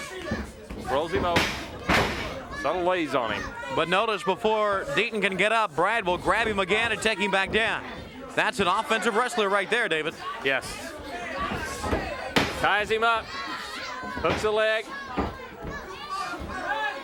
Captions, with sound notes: rolls him over. (hands thudding) (body thudding) Subtle lays on him. But notice before Deaton can get up, Brad will grab him again and take him back down. That's an offensive wrestler right there, David. Yes. Ties him up. Hooks a leg.